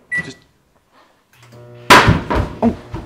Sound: microwave humming; man runs and hits door in panic

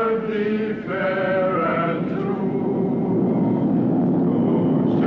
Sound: planes rumbling

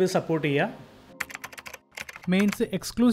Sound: typing

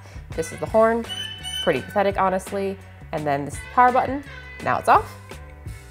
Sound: beep beep

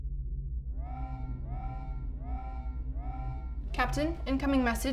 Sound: alarm blaring

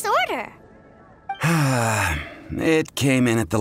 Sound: sigh

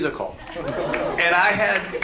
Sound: audience applauds

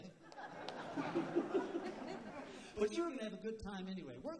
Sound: laughter

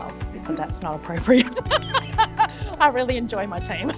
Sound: laughs

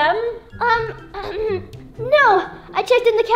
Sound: clears throat

